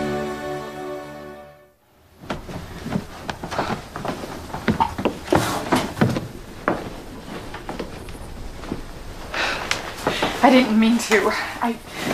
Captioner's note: sighs